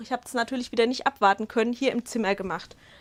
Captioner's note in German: none